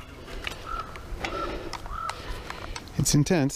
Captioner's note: crow cawing